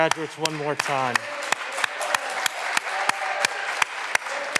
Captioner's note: all clapping